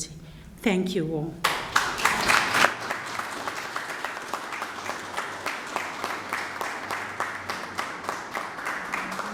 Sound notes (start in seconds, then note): 2.9 applause